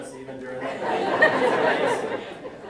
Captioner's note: audience laughing drowns out speaker